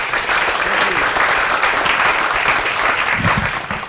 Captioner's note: applause